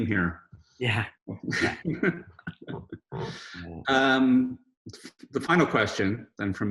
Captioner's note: laughs